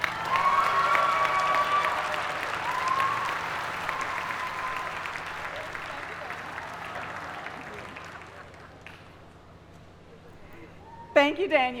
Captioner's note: applause